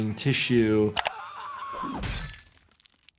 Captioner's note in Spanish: Victoria grita